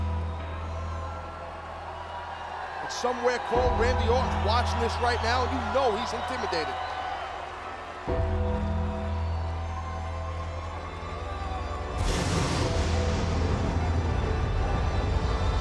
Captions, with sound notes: (crowd cheering) And somewhere, Cole, Randy Orton's watching this right now. You know he's intimidated. (bell tolling) (sinister music continues) (lightning cracking)